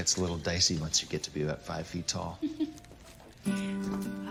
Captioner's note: chuckles